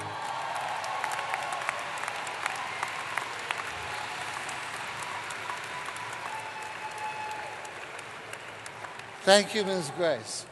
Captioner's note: applause